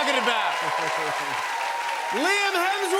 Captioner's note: cheers and applause